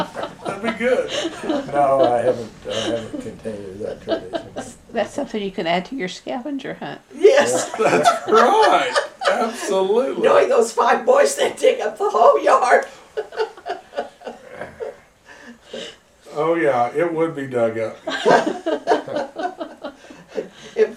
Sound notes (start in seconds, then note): 2.8 laughter; 7.3 laughter